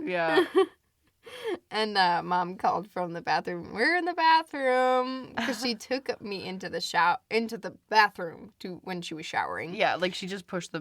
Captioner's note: laughs; laughs